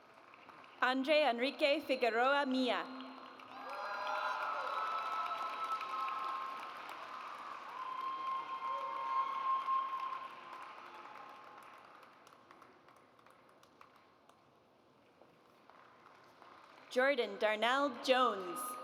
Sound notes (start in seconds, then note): 3.6 audience cheers; 7.0 audience applauds